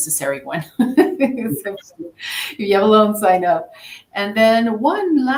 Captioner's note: chuckles